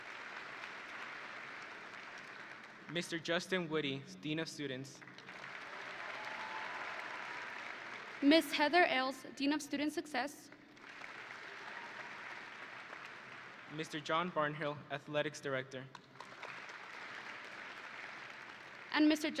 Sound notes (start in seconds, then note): 0.0 audience and graduates applauding; 10.6 audience and graduates applauding; 15.9 audience and graduates applauding